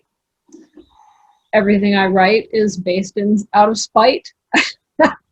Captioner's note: laughs